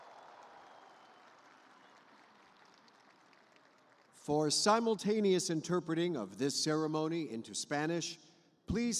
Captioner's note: cheers and applause